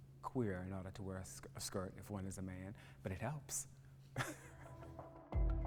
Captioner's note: laugh